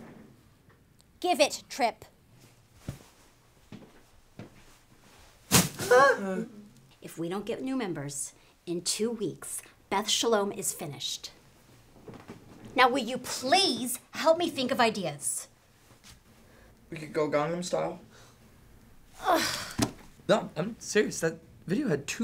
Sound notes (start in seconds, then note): 3.6 sound of the bear being thrown into the trash can; 5.9 whimpers from the guys